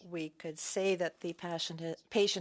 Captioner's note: speaking French